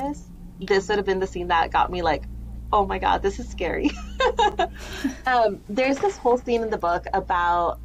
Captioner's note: laughter